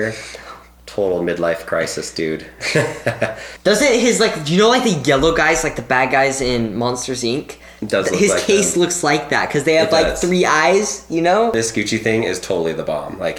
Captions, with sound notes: - No. - Total mid-life crisis, dude. (laughs) - Doesn't it... You know like the yellow guys, like the bad guys in 'Monsters Inc.'? - It does look like them. - His case looks like that, - It does. - 'cause they got the three eyes, you know? - This Gucci thing is totally the bomb,